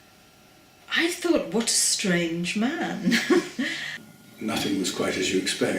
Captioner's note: laughs